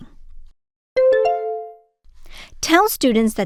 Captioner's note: bell ding